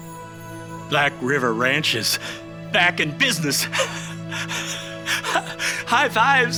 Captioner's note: gentle music; laughs